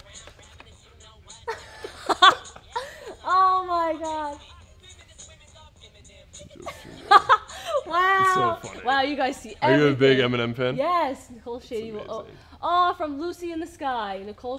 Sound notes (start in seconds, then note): 0.3 rap music playing; 1.3 chuckles